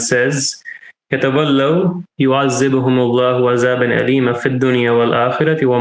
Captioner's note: speaking in Arabic